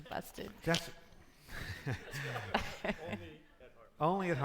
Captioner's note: laughing; audience laughing